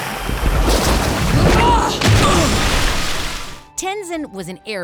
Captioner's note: grunting